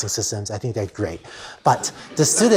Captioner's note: laughter